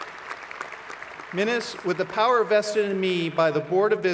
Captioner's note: applause